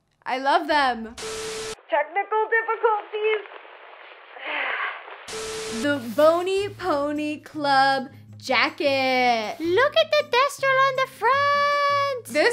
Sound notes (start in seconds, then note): 4.4 sighs